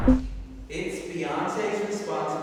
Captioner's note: electronic blip